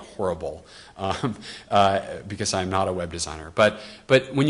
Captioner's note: laughs